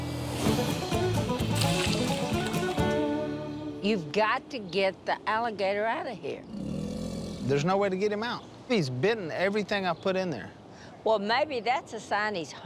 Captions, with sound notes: You've got to get the alligator out of here. [growling] There's no way to get him out. He's bitten everything I put in there. Well, maybe that's a sign he's hungry.